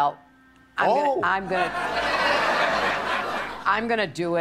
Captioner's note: audience laughter